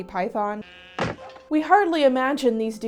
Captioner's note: loud wooden thunks